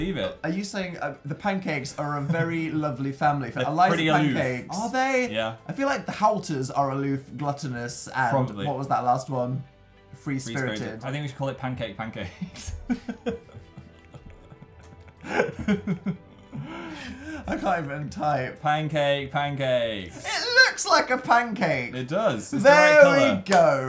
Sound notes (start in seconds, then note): 12.5 laughs; 13.0 continuous adorable laughing